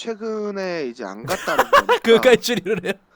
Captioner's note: laughing